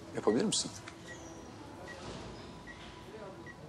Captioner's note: life support unit sound